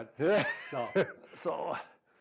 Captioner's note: laughing